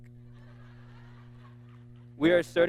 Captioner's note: audience laughing